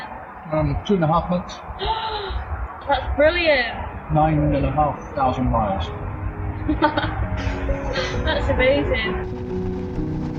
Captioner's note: gasp